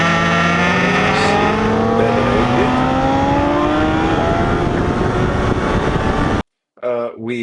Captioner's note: tires screeching